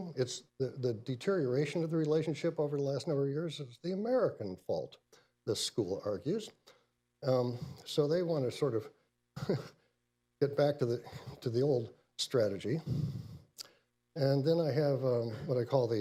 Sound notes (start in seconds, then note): 9.4 laughs